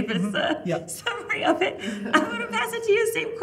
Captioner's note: panel chuckling